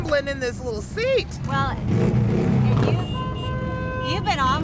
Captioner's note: engine revs; horn honks